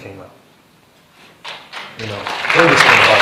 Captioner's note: applause